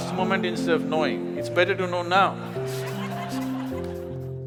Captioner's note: laughter